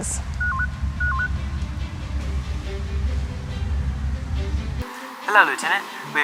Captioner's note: beeping